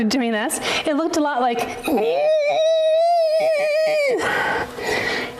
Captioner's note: groans